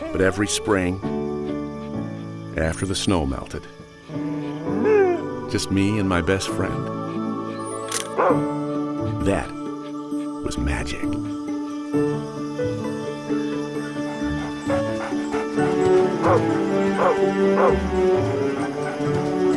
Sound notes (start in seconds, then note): 7.9 camera shutter clicks; 8.1 barks; 12.0 cheerful music; 13.8 panting; 17.5 barking; 19.4 cheerful music